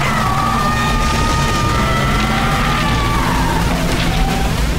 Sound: sirens blaring; thunder and intense wind pulling; portal and wind close and fade, sirens continue to blare

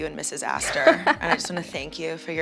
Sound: laughs

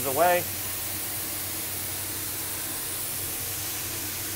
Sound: paint spraying

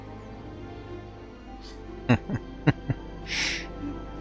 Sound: chuckles and Sniffles

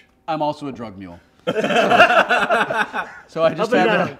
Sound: laughter

